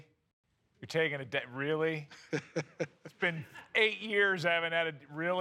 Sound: laughs

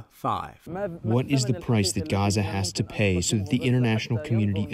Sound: through translator

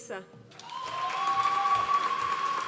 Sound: applause

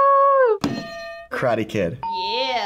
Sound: bell rings

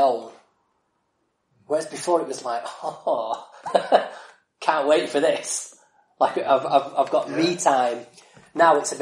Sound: laughs

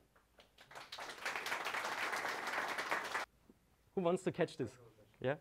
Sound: audience applauding

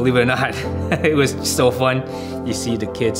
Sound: chuckles

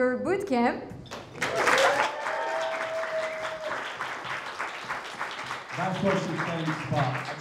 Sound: crowd applauding; crowd cheering

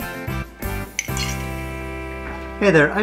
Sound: silverware clinking in mug

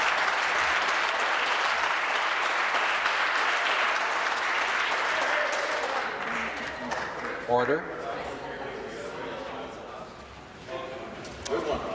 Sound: applause

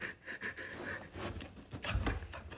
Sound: Chad breathing heavily

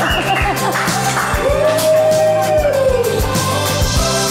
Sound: camera crew cheering; cheerful music continues

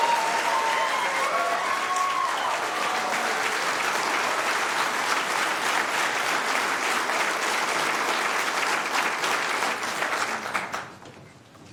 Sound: cheers and applause

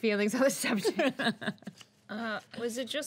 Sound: girl laughing

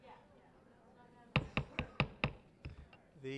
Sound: banging of gavel

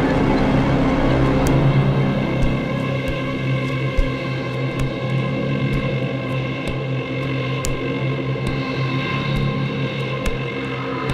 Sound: footsteps Receding

